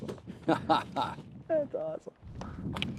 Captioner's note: laughing